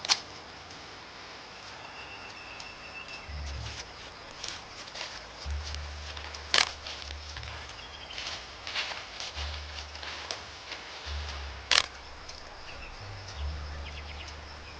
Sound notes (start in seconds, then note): 0.4 camera clicking; 6.4 camera clicking; 11.6 camera clicking; 14.5 water rushing